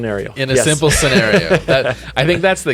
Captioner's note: both laugh